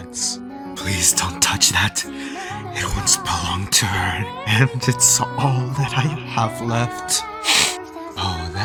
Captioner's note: sniffle